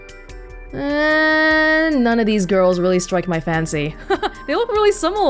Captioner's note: chuckles